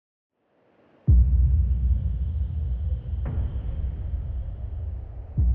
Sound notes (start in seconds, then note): 1.6 wind whooshing, rumbling sounds